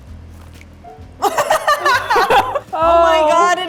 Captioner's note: laughing